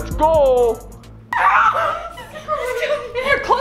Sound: cries out

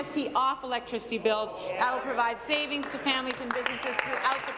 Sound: applause

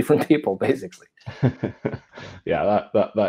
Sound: both chuckle

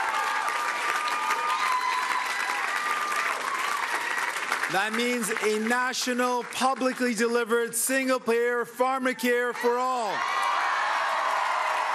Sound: cheering and Applause

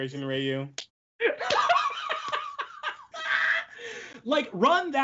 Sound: laughs

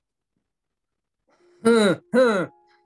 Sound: grunts twice; grunts

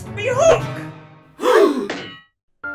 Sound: gasp

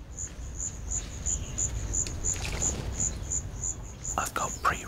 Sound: bird splashing

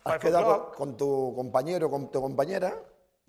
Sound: speaking spanish

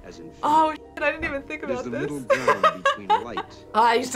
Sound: laughs

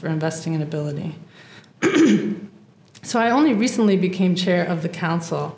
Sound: cough

